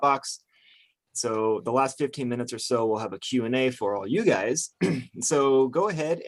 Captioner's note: clears throat